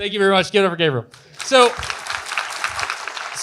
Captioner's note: audience Applause